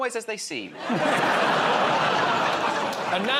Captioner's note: laughter